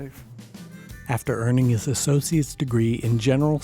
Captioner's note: voiceover